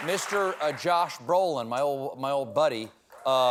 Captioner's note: applause